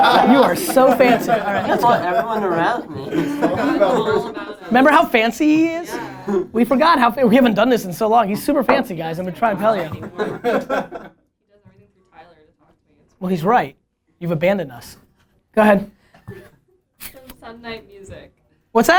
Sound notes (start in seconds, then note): 1.6 laughter and crosstalk; 9.8 laughter